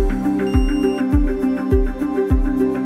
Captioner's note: thermometer beep indicating measurement was taken; background music